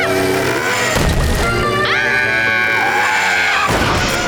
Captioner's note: screaming